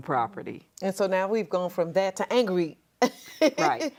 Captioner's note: laughs